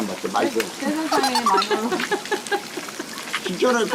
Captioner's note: hahahahaha